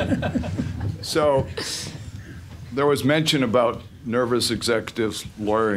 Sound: laughing

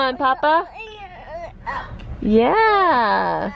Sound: babbling

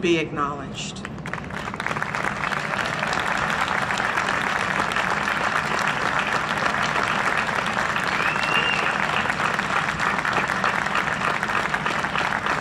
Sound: applause and cheering

